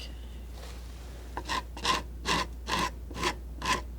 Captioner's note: scratching